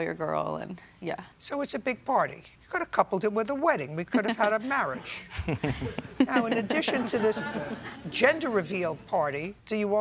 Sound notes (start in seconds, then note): 5.3 laughter